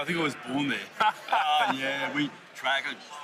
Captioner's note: laughs